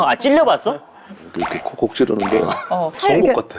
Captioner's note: poking